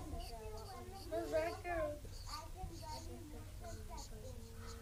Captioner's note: multiple students talking